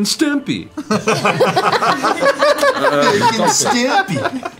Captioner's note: laughter